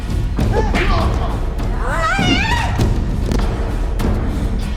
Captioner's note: both grunting